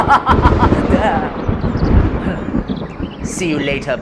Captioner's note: roll of thunder